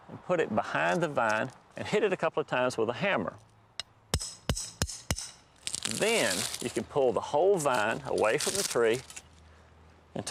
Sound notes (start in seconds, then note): 4.1 hammering sounds